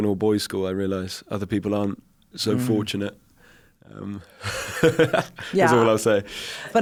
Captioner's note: laughs